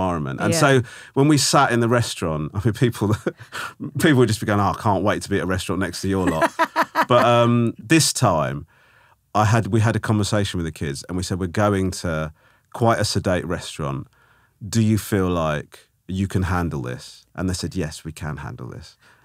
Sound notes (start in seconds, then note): 6.2 laughing